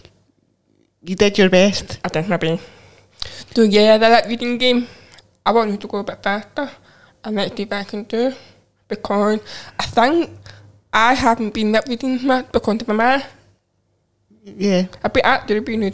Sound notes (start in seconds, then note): none